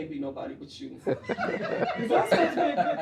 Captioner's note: laughing